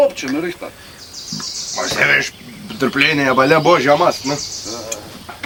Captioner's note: burp